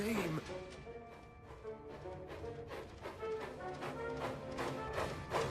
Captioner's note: chug-Chug-Cug-Chug